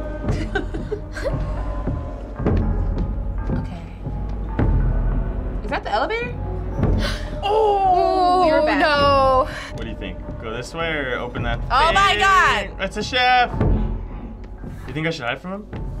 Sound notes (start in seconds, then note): 0.2 chuckling; 7.0 gasping